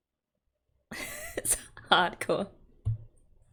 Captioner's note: laughs